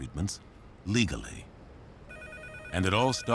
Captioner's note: phone ringing